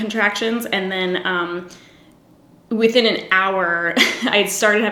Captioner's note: giggles